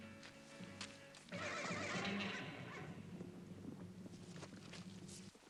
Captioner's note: horse neighs